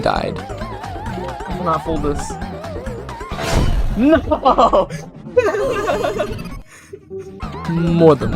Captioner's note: laughing; more Laughing